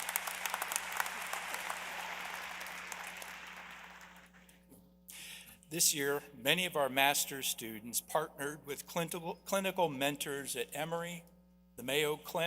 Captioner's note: applause